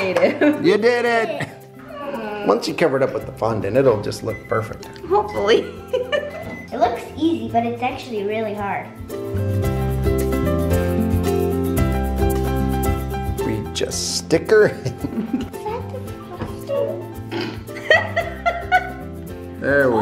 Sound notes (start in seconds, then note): 1.8 groans; 5.8 laughs; 6.0 oven timer beeping; 14.7 chuckles; 18.2 laughs